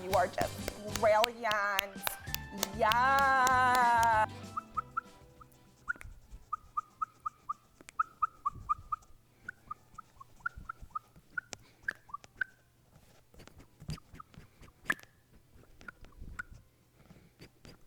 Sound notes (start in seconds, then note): 1.8 clapping; 4.2 bottle whistling